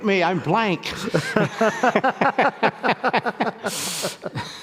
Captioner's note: both laughing